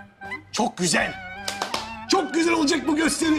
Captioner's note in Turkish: Alkış sesi